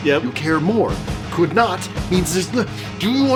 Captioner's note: stammers